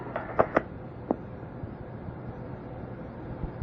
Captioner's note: tape breaks